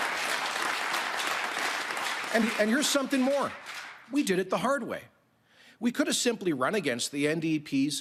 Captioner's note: cheering and Applause